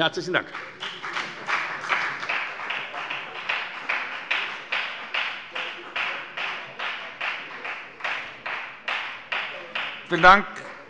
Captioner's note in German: Beifall bei der FDP